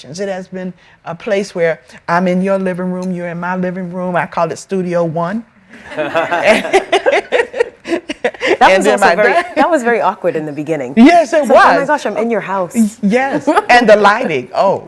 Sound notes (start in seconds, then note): 5.7 all laughing